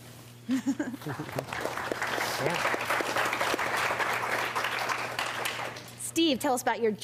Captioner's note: applause